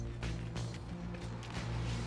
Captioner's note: tires screeching